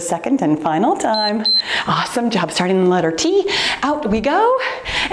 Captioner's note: timer beeps